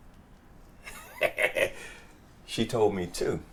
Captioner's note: laughs